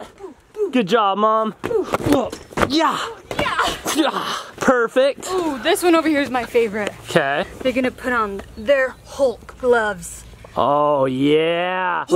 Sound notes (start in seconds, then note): 3.3 dull thud; 3.6 gasps and grunts; 4.5 both imitating fighting sounds